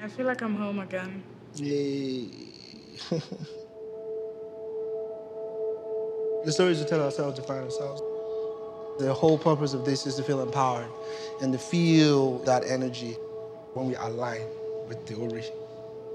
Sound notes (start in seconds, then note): 1.6 laughs